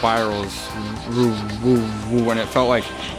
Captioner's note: mimics whooshing